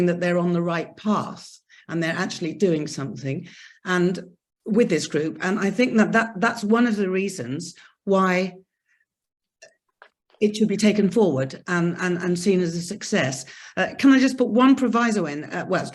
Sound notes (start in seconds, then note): none